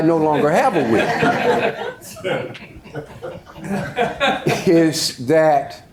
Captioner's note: audience laughs